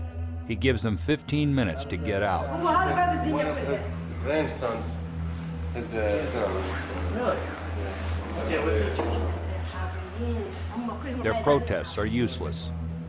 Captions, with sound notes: He gives them 15 minutes to get out. [Woman speaking in Arabic] Their protests are useless.